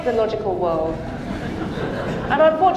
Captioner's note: audience laughing